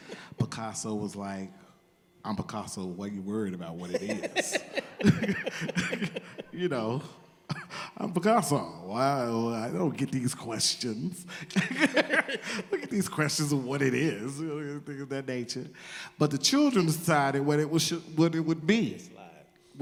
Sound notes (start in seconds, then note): 0.0 laughter; 3.8 all laugh